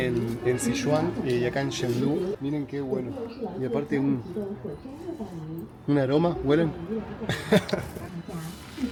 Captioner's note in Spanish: risas